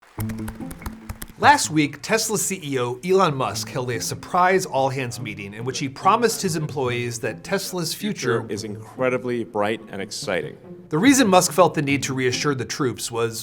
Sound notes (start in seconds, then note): 0.1 computer keys clicking; 0.3 gentle music